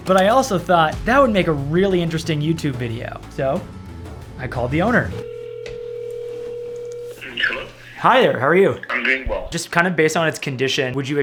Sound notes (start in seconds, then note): 5.1 phone ringing